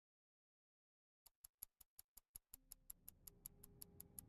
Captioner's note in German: uhr tickt